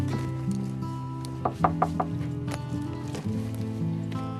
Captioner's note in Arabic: طرق الباب